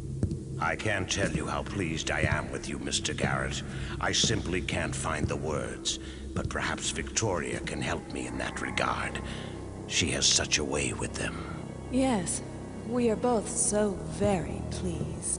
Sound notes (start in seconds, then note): none